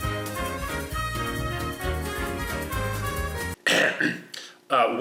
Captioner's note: cough